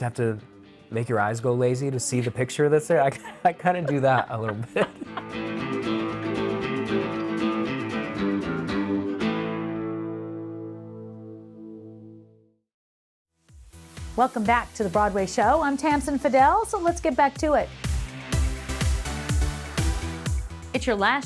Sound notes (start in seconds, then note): 4.6 host laughs; 5.9 upbeat country music; 17.4 exciting music